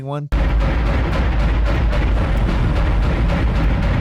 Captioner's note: cannon blasting